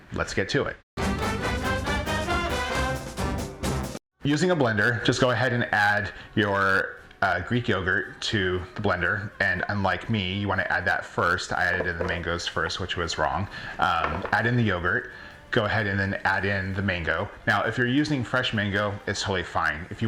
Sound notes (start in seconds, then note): 1.0 lively music; 11.7 mangoes thumping; 14.0 mangoes thumping